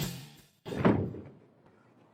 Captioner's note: door Slams